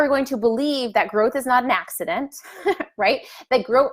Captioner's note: laughs